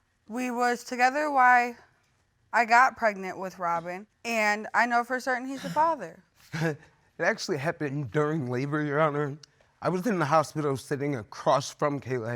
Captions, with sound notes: We was together while I got pregnant with Robyn, and I know for certain he's the father. [scoffs] It actually happened during labor, Your Honor. I was in the hospital sitting across from Kayla,